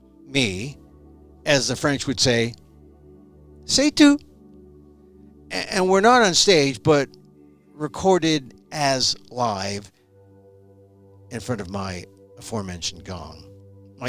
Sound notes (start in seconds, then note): 3.5 french Language